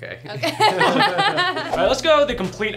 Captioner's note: laughs